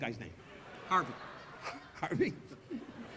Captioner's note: Don chuckling